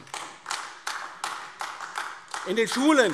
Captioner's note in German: Beifall AfD